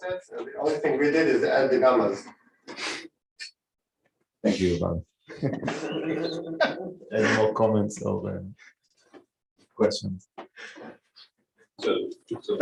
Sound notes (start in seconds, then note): 5.3 laughter